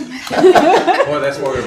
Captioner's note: laughing